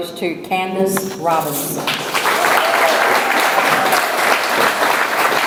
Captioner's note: audience applauds